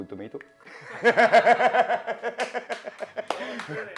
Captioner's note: laughing